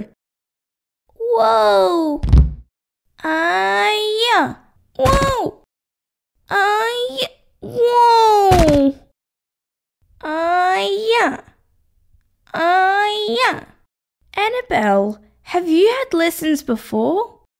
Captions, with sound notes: Whoaa! (Thud!) Ahhhh-ya! Whoaa! (Thud!) Ahhhh-y... Whoaa! Ahhhh-ya! Ahhhh-ya! Annabelle! Have you had lessons before